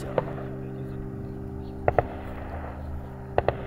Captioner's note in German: Entfernte Schüsse